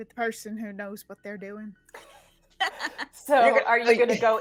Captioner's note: people laughing